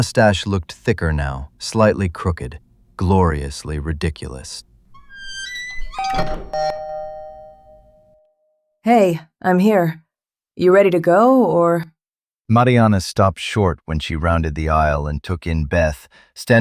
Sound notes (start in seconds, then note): 8.8 SFX: Door + Chime